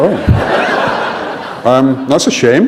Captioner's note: laughter